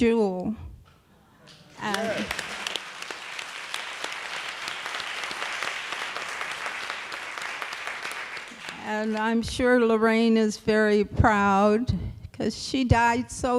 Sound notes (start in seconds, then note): 1.5 applause